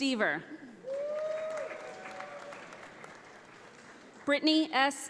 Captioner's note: audience applauds